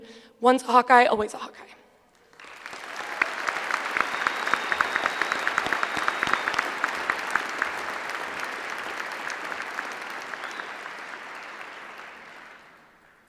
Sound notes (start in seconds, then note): 2.7 applause